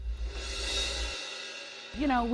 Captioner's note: whoosh sound plays